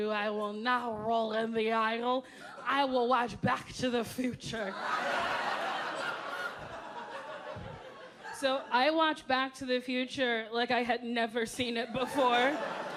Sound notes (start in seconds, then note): 4.7 audience laughing